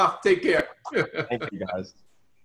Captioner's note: laughs